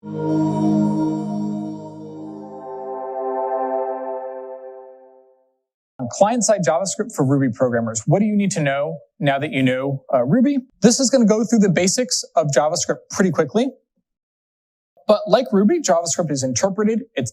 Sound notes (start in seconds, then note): 0.0 digital effects